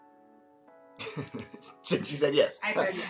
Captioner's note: laughs